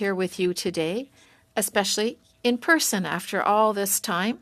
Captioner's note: speaking French